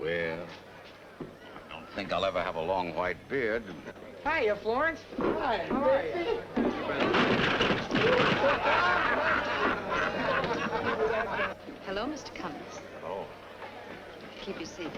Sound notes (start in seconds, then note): 6.6 crashes; 8.0 laughter